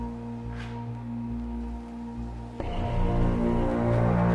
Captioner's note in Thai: none